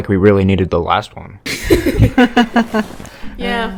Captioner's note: chuckles